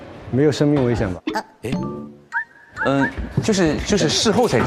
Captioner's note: safety-first Ding